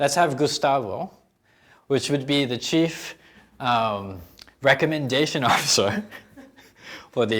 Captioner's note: laughing